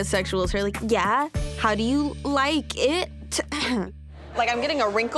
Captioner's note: clears throat